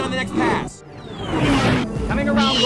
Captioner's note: engine whine